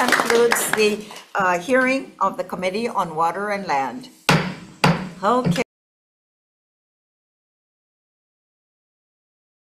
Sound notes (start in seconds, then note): 0.0 attendees clapping; 4.3 gavel pounding